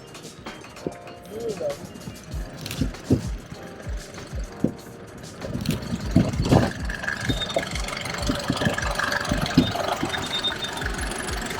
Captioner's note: background noise of Jeep